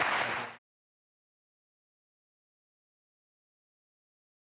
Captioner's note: audience applauding loudly